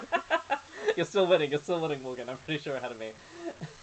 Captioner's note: laughing